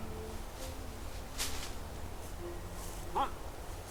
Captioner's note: leaves rustling